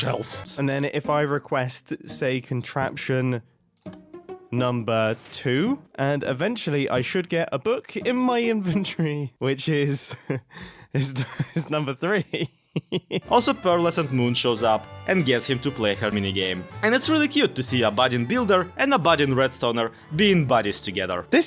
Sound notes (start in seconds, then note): 12.1 laughs